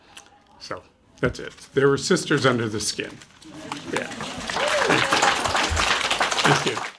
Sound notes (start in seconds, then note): 5.4 applause